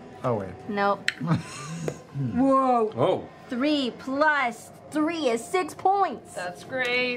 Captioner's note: childish voice